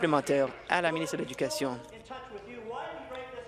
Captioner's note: applause